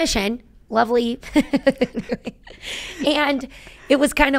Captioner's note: laughing